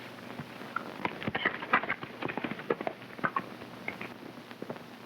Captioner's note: hooves clopping